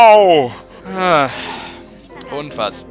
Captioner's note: sigh